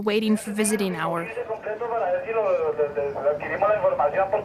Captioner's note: audio in Spanish